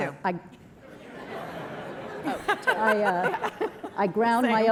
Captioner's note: laughter